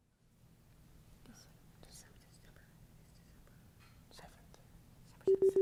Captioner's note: team whispering